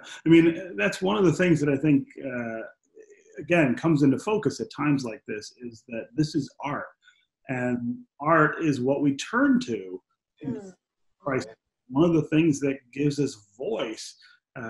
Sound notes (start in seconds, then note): 1.5 laughs